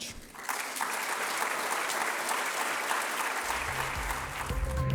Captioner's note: audience applauds